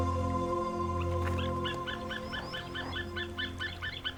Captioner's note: eagle crying